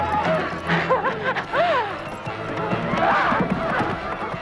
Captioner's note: Hundra laughs